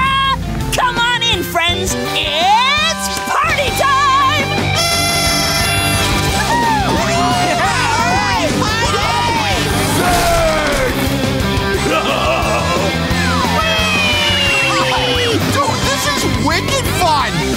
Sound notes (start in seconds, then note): 4.6 blowing; 9.7 smashing